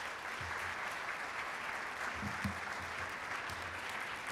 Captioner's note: applauding